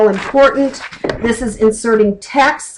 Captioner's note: flipping pages